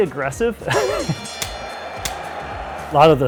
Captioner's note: boxing bell rings